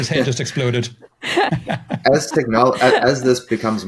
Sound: laughing

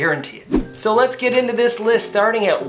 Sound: air whooshing

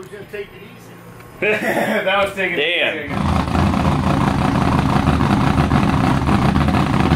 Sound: laughs

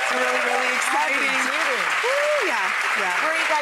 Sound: audience clapping

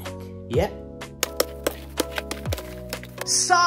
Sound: debris plopping

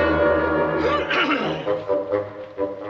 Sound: coughs

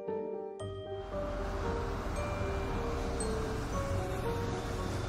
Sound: traffic humming

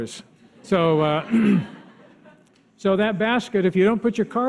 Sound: audience laughs

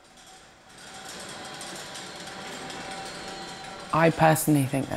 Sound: metallic clacking

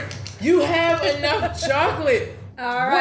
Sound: laughs

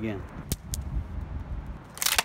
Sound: rocks hitting cement wall; stick hitting ground

